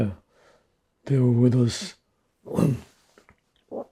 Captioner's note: clears throat